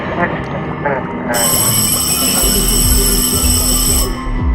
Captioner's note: dismissal bell